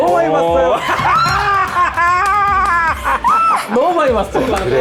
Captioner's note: confident